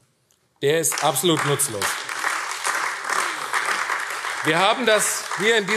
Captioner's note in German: Beifall AfD